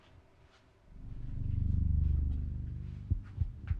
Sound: low rumbling

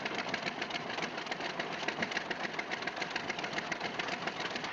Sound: engine idling

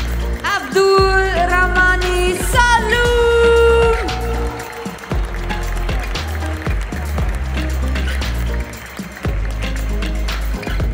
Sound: applause; applause

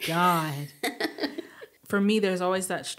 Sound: chuckling

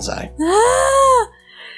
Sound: happy noise

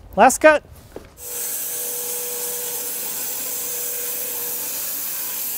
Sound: saw blade humming

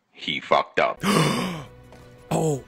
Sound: gasp

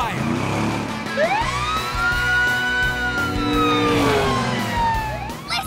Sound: sirens wailing

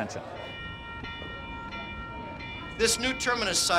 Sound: bell Ringing

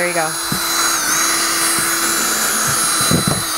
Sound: drill whirring

